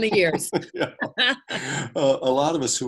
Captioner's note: both laugh